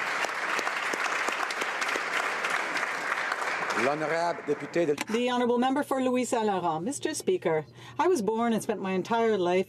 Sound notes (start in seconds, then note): 0.0 applause